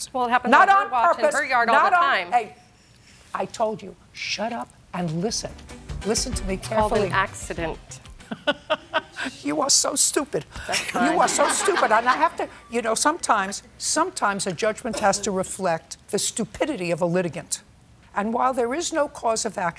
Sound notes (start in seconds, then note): 8.2 laughs; 10.7 laughter